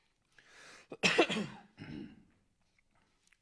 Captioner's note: coughs